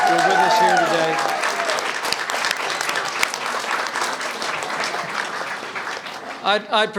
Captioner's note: applause